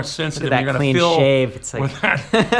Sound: both laugh

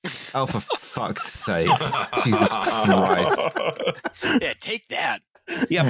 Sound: laughter

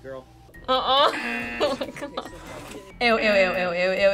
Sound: buzzer rings

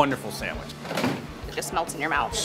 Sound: door closes

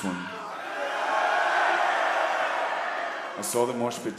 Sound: audience cheering

